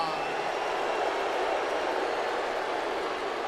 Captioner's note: crowd boos